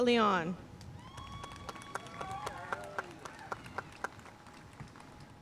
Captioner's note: audience cheering and applauding